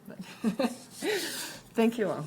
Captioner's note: laughs